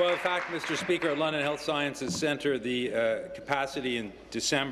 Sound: applause

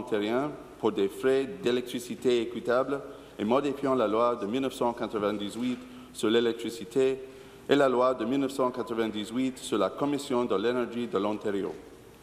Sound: speaking in French

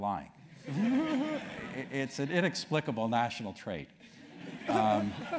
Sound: laugh; laugh

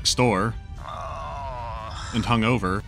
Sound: groaning

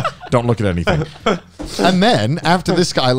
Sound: laughing

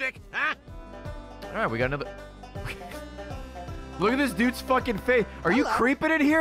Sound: laughs

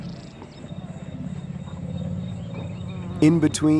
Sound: elephants growling

